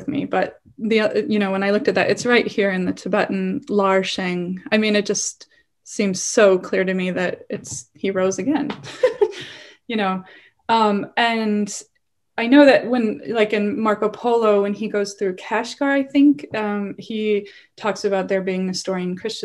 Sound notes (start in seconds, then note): 3.5 non-english; 8.7 laughs